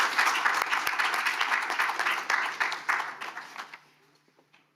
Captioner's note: audience applauding